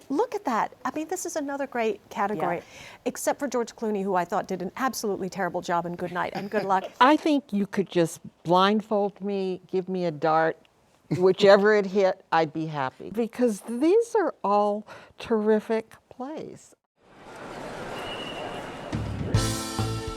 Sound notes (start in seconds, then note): 6.3 laughter; 17.9 whistle blows; 19.1 up-tempo music playing